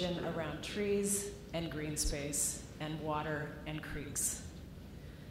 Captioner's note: none